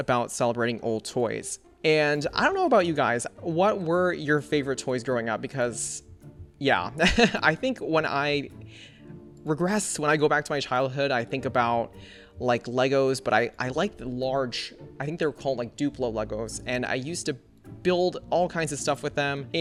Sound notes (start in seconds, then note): 7.0 laughs